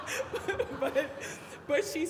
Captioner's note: everybody laughing